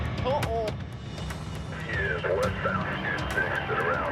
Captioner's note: helicopter blades spinning